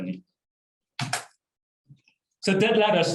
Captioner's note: keyboard keystrokes